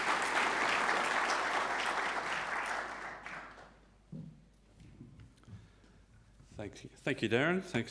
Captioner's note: audience applauds